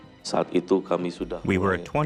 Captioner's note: speaking foreign language